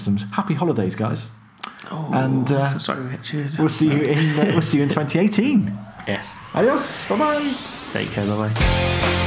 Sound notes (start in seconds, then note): 3.7 laughing